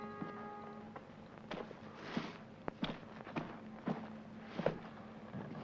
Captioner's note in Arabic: خطوات تقترب